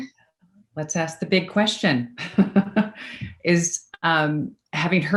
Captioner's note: laughs